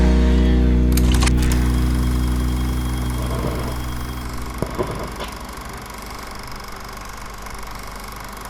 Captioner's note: camera shutter